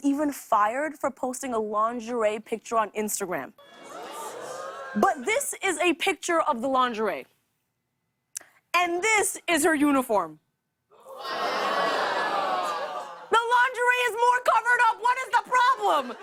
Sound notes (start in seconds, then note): 3.4 audience gasps; 11.0 audience groans